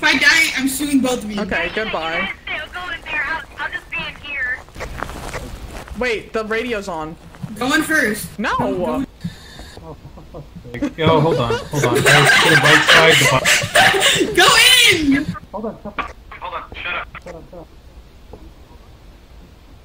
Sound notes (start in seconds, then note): 2.4 over radio; 4.7 radio flies through channels; 9.5 nervous chuckles; 10.7 laugh